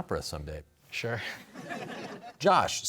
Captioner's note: laughter